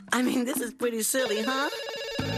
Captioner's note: telephone rings